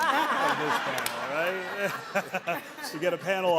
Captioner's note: all laughing